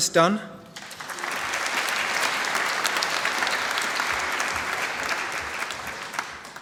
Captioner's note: applause